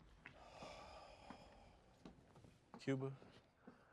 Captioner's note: sighs